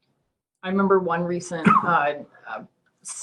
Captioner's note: cough